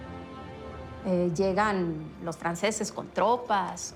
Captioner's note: in Spanish